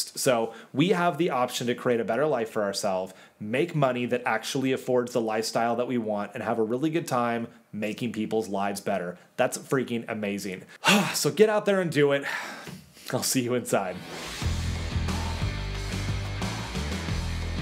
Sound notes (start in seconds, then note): 12.3 exhales deeply; 13.9 upbeat rock music